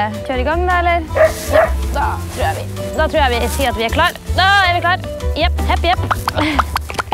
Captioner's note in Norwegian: bjeffing